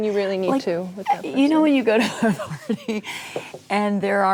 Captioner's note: laughing